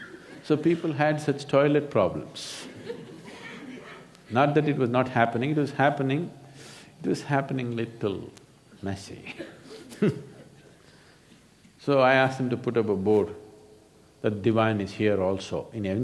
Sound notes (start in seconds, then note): 10.8 laughs